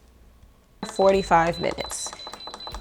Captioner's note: beeping buttons